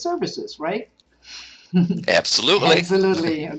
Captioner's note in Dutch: Lachen